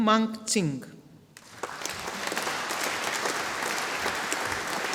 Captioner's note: audience applauding